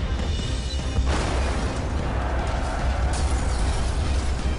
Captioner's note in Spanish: Explosión